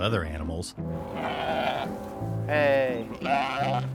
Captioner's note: sheep baaing